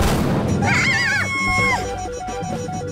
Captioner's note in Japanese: 叫び声